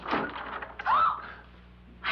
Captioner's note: gasp